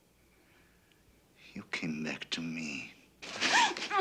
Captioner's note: gasps